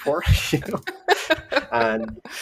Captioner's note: laughter